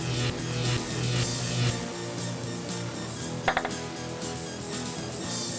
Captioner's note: electricity crackles and hums